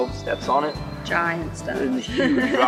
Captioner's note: laughs